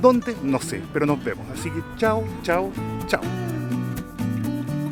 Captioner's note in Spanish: aplausos